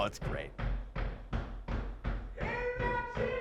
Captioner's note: feet stomping